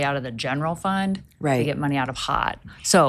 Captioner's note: none